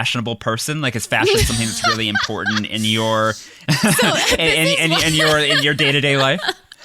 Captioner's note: laughs